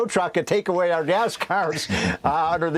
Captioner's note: laughter